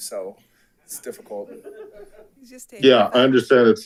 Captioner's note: attendees laughs